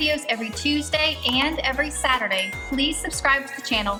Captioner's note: bell dings